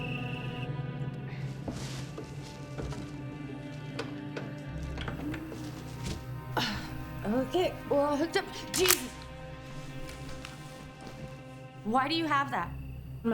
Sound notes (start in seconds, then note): 4.4 VCR clicks; 5.5 VCR whirs; 7.4 grunts; 8.6 gun clicks